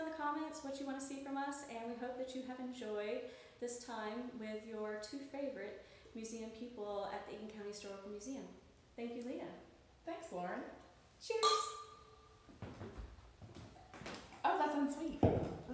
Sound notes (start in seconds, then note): 11.4 clinks glasses; 12.1 takes sip of tea, grimaces